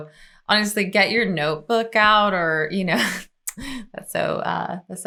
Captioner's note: chuckles